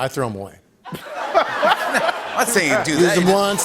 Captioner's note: laughter